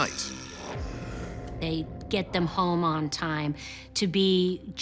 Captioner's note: strain